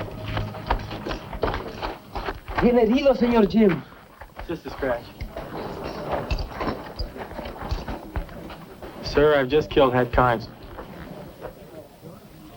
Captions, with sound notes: -[SPEAKING SPANISH] -It's just a scratch. -Sir, I've just killed Hat Carnes.